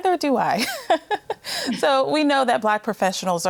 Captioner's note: laughs